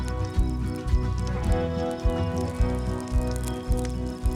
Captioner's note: fire crackling